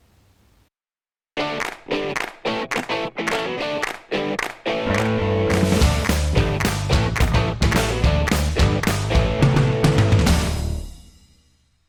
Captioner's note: claps